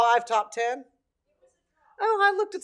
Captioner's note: someone speaking off microphone